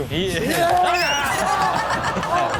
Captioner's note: audience gasps; Chanel screams